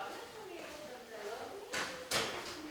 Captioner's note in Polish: odgłosy rozmów w tle